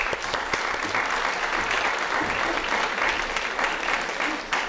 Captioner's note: applause